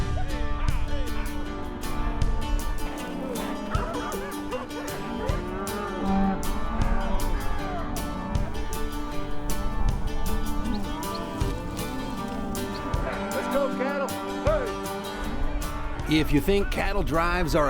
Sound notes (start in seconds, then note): 3.0 dog Barking; 4.0 cows Mooing